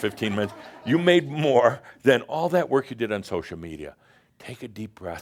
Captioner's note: some chuckles